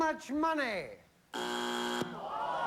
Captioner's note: buzzer